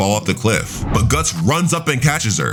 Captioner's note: air whooshing